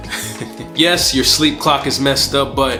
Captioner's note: chuckling